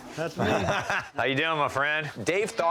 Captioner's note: laughter